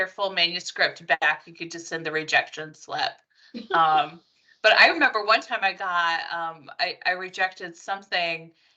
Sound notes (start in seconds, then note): 3.5 laughing